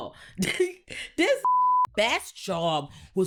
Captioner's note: laughs; beep